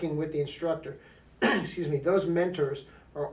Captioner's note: coughs